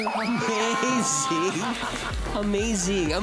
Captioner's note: laughing